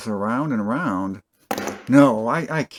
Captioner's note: thunk